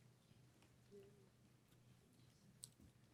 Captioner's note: whispers